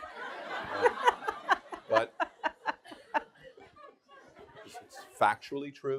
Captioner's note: audience laughing; laughing